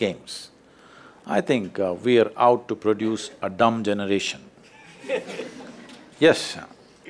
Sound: few laugh

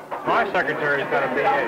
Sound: chatter

